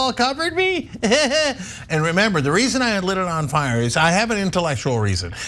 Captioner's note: laugh